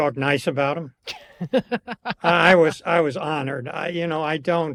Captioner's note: laughs